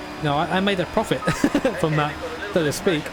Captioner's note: laughter ensues